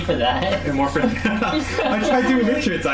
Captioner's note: laughter